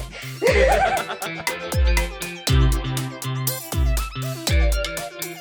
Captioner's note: both start laughing